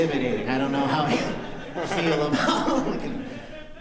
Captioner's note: laughter